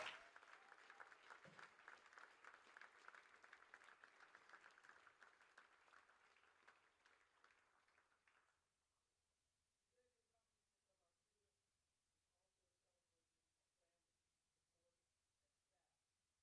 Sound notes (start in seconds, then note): 3.1 applause